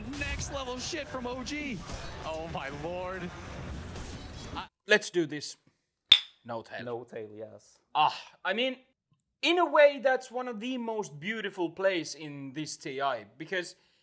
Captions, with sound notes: Let's do this. [CHEERING BOTTLES] n0tail. n0tail, yes. I mean, in a way that's one of the most beautiful plays in this TI because